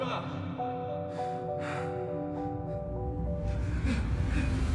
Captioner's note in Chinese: 喘息声